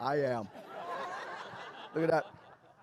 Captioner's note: laughter